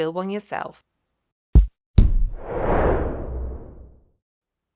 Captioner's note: thud thud whoosh